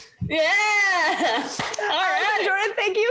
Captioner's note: applause